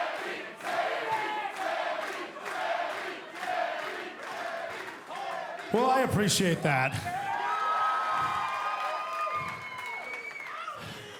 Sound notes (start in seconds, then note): 1.0 fans chanting